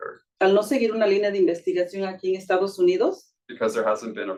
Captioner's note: speaking Spanish